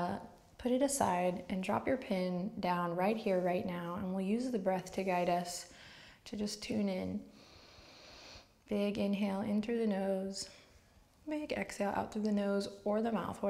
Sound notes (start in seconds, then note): 7.3 soft inhale